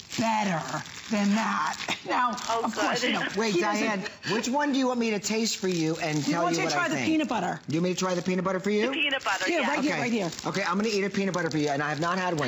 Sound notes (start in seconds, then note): 3.0 laughter